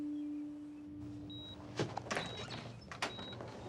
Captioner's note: beeping